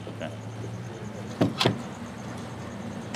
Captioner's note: knocking